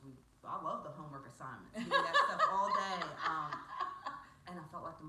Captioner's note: female laughs